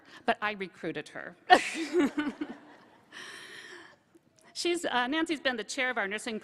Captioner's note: laughter